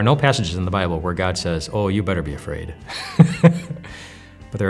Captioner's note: laughs